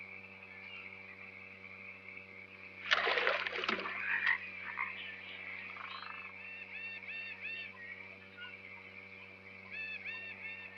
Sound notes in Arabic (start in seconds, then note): 2.8 رذاذ الماء; 4.7 نعيق الضفادع